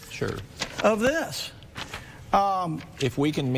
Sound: shuffling papers

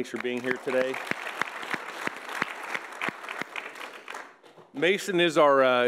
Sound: audience applauds

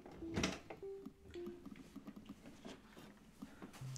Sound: door opens

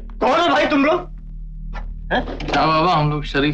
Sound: none

